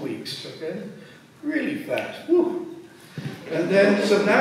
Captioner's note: snaps fingers